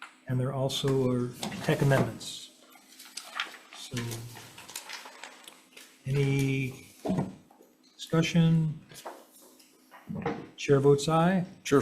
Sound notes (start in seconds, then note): 2.7 paper rustling